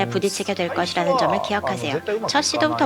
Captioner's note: non-english speech